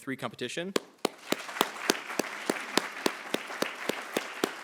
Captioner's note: attendees applauding